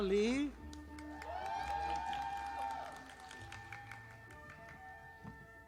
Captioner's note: audience applauding